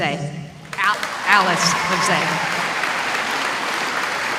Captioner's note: applause